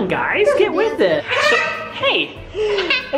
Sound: screaming

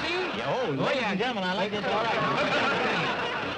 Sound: indistinct chatter

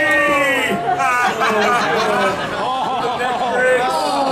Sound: audience laughing

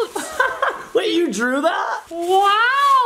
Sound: laughs

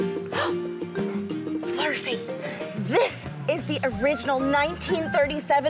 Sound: bright upbeat music; gasping

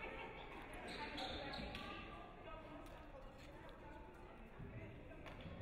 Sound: sneakers squeaking

